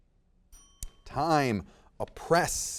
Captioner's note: bell dings